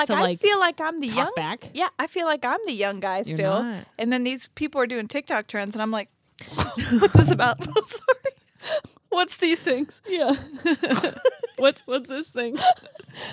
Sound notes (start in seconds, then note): 8.6 laughs